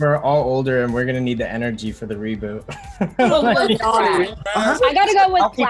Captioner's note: laughing